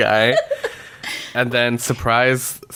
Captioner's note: laughs